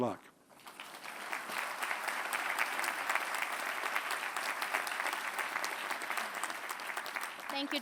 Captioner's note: applause